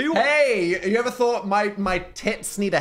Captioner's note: Phil laughs